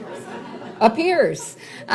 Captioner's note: laughs